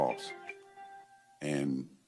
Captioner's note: ring tone